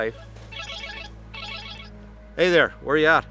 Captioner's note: phone rings